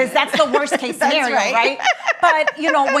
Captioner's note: laughs